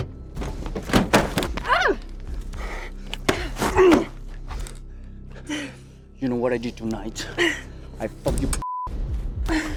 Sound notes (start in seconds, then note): 1.6 Ping groans; 3.3 Raul grunts